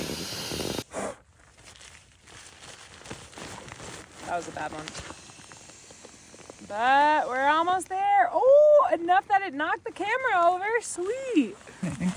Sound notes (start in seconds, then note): 0.0 blowing; 4.5 air hissing